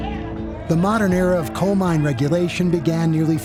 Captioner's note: men chanting